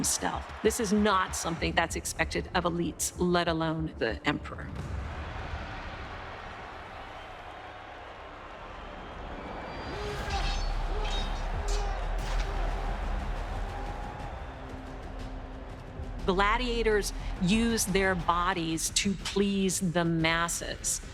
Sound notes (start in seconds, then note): 4.8 cheering; 9.7 gladiators grunting